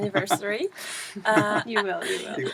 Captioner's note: laugh